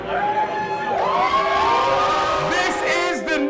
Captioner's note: crowd cheering